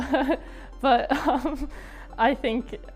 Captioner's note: laughs